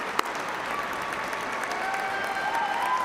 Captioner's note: cheers and applause